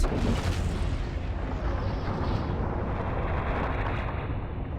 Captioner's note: intense rumbling